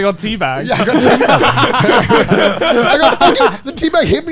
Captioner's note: men laugh